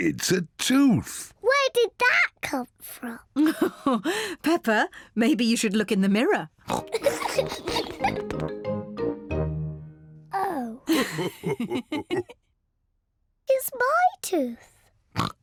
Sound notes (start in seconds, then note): 3.5 laughs; 6.6 oinks and giggles; 10.8 both laugh